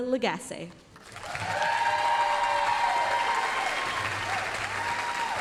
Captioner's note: applause, cheering